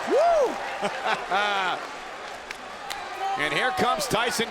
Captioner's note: JBL laughs